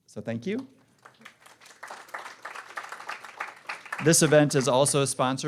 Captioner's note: applause